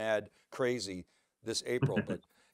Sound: laughing

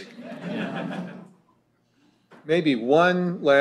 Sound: laughter

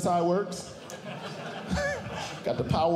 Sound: audience Laughing

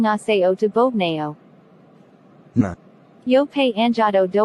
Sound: surprised

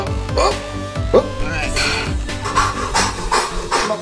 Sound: grunting; heavy breathing

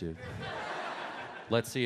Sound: audience laughs

